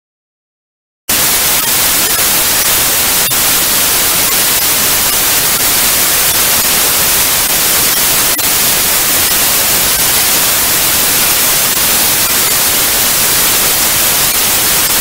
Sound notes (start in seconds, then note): 1.1 sound of static TV